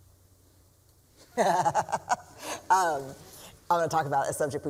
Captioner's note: laughs